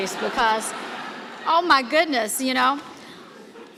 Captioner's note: laughter